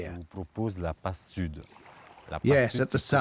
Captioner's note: speaking French